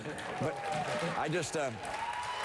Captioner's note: applause